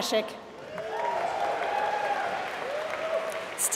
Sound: applause

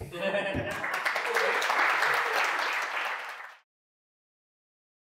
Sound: people clapping

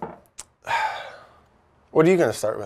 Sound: sighs

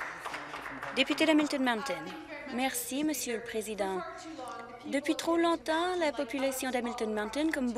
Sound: some applause

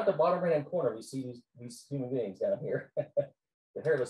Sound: laughs

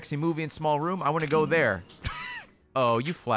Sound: laughs

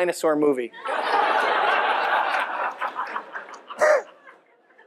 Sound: laughing

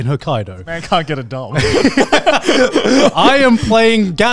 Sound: laughing

